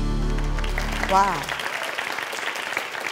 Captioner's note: audience applause